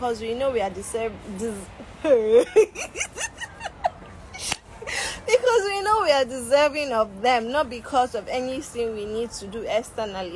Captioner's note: laughter